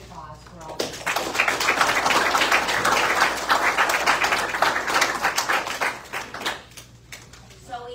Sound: graduates applaud

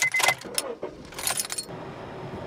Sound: engine turns on

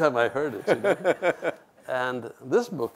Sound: laughs

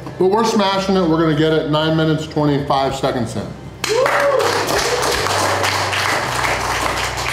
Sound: clapping and cheering; crowd

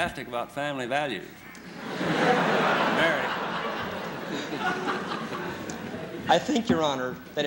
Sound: laughter

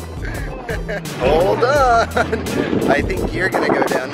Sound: laughing

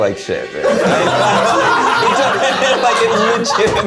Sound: everybody laughs

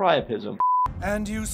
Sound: background tonal beeping

